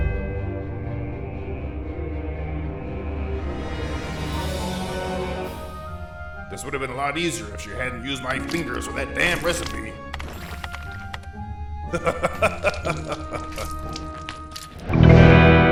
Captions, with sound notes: (spooky music) - This would've been a lot ease if she hadn't used my fingers for that damn recipe. (keyboard clicks) (laughing)